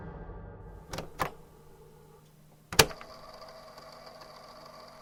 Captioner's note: click